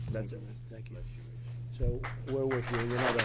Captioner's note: applause